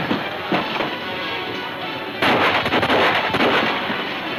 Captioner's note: gunfire pops